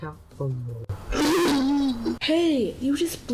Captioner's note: trampoline makes an ear-piercing noise